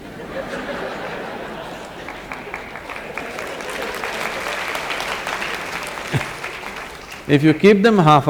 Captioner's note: laughter/Applause